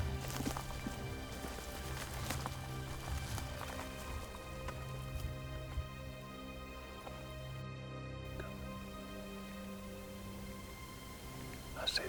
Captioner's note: whispering